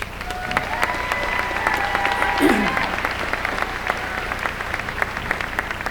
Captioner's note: applause